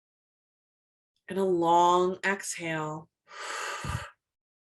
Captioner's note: exhales slowly